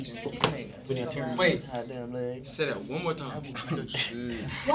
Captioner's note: students murmur